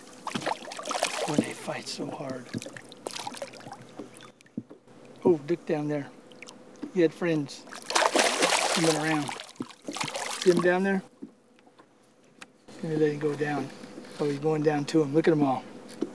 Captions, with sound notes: oh they fight so hard [splash] oh look down there he had friends [big splash] see them down there there they go down oh he is going down to them look at them all